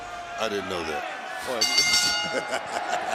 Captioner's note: bell rings